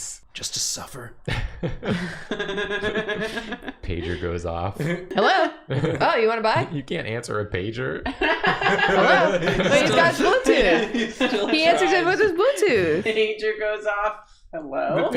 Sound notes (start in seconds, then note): 8.0 laughter